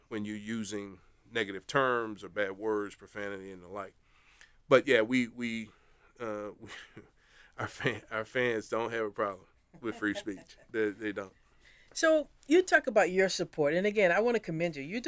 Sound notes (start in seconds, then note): 5.7 laugh